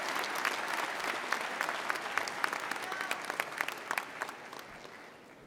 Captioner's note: applause